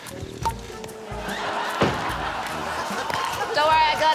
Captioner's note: laughter